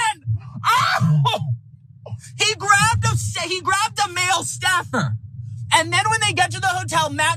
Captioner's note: laugh